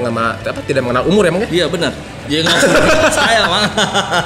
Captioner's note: laugh